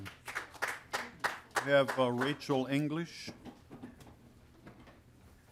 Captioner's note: applause